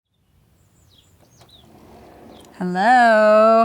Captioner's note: birds chirping